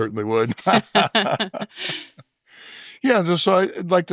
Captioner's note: both chuckling